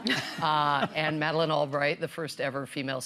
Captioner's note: laughter